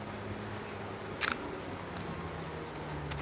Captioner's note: camera shutter clicks